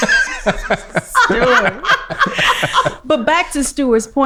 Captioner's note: everyone laughing